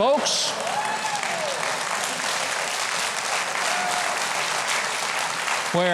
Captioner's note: audience cheering and clapping